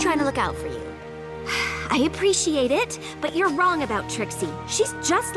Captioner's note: sigh